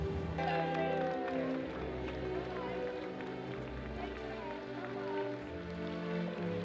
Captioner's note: crowd chattering; crowd clapping